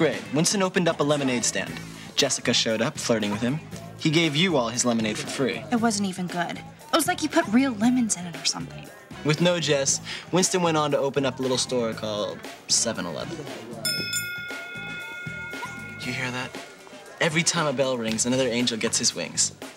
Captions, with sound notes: Fourth grade, Winston opened up a lemonade stand. Jessica showed up, flirting with him. He gave you all his lemonade for free. It wasn't even good. It was like he put real lemons in it or something. With no Jess, Winston went on to open up a little store -called 7-Eleven. -[bell dings] Did you hear that? Every time a bell rings, another angel gets his wings.